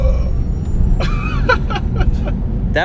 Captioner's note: laughing